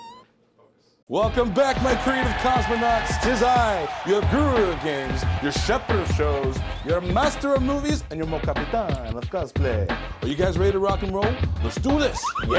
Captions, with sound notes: That was... Go back. [horn honks] Focus. Welcome back, my creative cosmonauts. It's his eye. Your Guru Games, your Shepards shows, your Master of Movies, and your Mo Capitan.